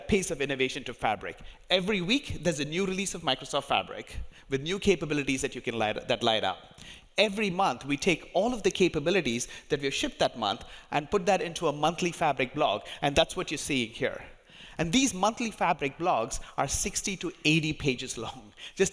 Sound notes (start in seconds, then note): none